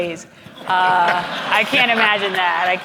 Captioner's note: audience laughing